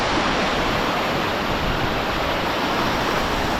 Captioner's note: loud stream noise